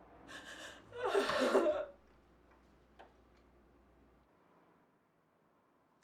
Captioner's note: crying